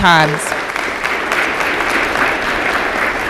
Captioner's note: applause